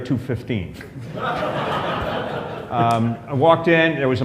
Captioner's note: laughter